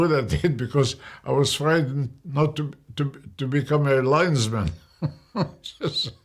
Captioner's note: laughs